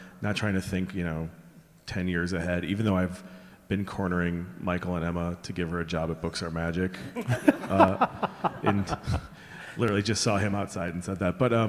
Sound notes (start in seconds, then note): 7.1 laughing